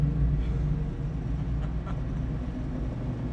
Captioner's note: joyful laugh